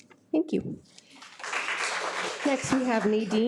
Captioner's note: audience clapping